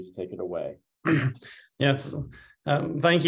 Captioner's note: clears throat